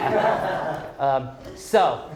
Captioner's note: group laughing